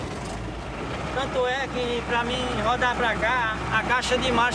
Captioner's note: Portuguese spoken audio